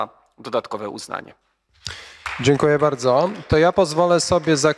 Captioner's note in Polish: oklaski